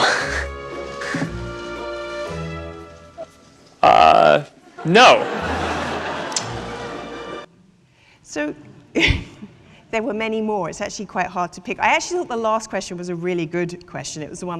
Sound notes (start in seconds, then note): 4.7 audience laughing